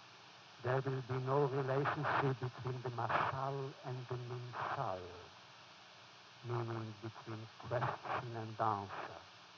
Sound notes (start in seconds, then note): 3.8 foreign language